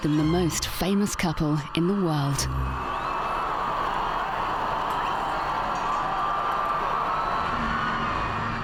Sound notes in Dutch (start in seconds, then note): 3.0 menigten juichen